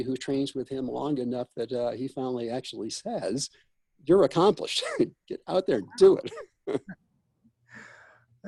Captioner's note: laughs